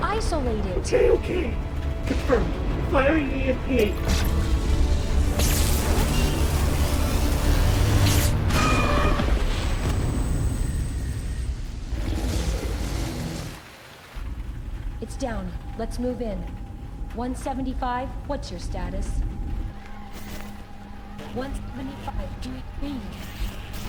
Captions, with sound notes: - Isolate it. - Okay, okay, confirmed. Firing EMP. (electrical charging) (creature roaring) (electrical sound) - It's down. Let's move in. 175, what's your status? (woman screaming) 175, do you read?